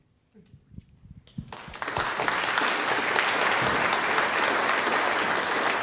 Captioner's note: audience applauding